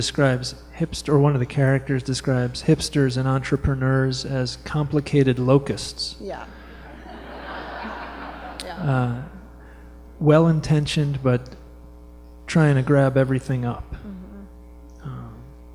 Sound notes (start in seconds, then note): 6.7 laughter